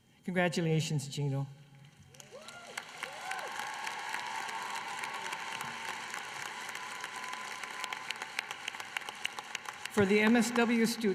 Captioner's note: applause